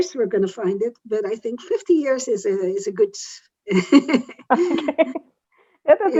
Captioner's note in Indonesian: Laughter